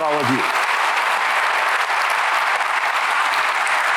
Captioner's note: applause